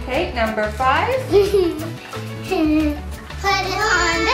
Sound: laughs

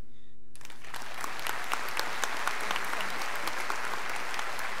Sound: scholars applauding

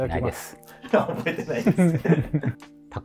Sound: laughing

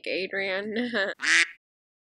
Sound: quack

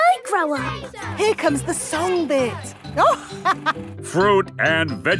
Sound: chuckling

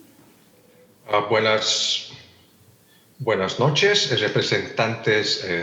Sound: translator speaking in Spanish

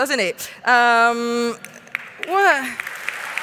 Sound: applause

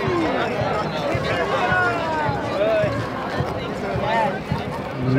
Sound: people chatter indistinctly

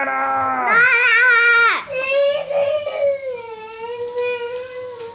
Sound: speaking gibberish

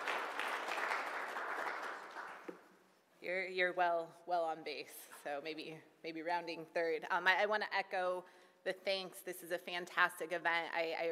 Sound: applause

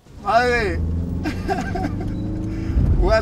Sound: riendo

